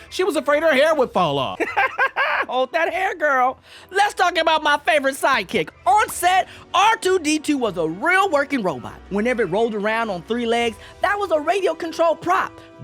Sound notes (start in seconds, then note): 1.6 laughs